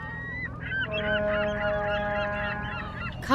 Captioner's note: seagulls calling; boat horn